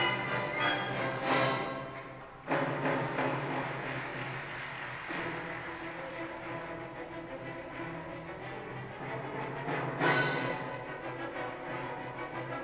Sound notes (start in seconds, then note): 2.6 audience applauding